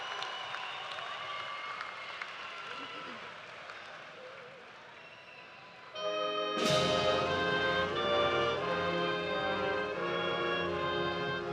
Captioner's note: cheers and applause